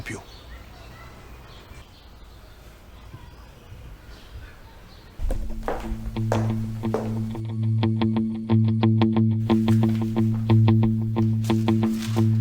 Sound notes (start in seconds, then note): 5.2 clatter of sharp heels; 8.0 tension music